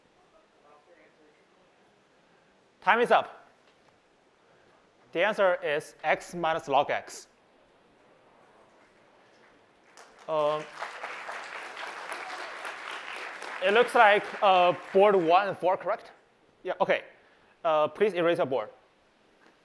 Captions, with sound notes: Box your answers. Time is up. The answer is x minus log x. [APPLAUSE] It looks like boards 1 and 4 are correct? Yeah, OK. Please erase your board.